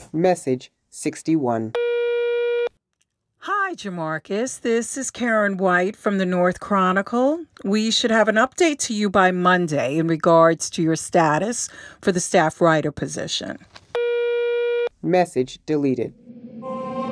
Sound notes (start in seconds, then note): 1.8 phone tone; 14.0 phone tone